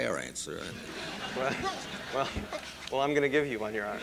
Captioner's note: laughter